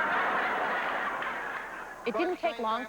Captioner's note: applause stops; laughter